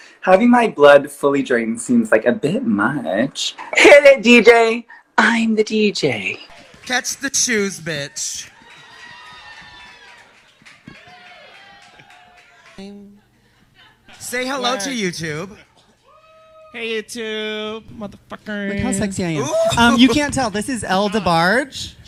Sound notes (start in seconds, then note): 4.6 whispered; 10.1 vague cheering and applause